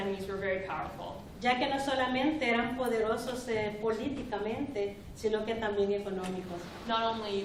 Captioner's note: speaking spanish